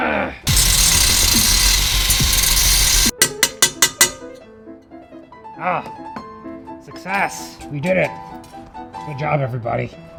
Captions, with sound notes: [intense hardcore music] [hammering] Ah! Success! We did it! Good job everybody.